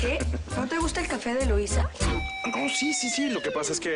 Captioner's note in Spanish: Risas